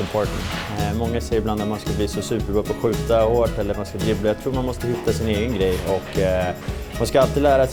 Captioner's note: hockey player speaking in foreign language